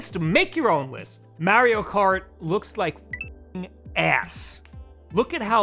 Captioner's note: beep